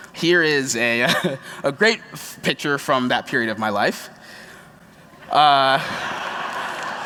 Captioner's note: laughter